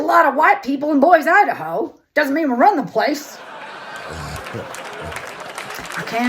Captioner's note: Audience & Chappelle laughter & applause